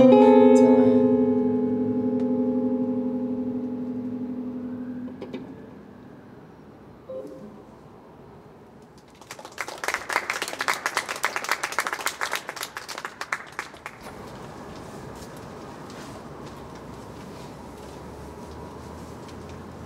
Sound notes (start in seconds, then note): 8.9 clapping